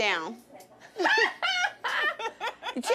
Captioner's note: laughter